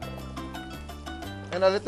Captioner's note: sizzle